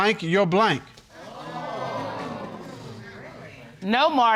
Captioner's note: audience gasps